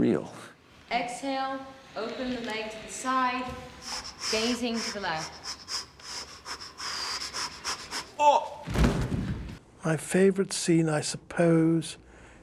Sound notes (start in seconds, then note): 3.4 panting